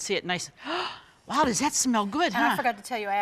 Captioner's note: gasps